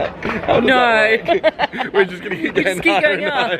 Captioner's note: both laughing